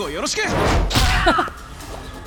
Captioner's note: chuckles